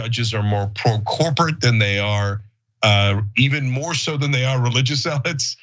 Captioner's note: laugh